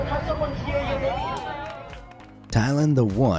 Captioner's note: crowd cheering; crowd applauding; upbeat music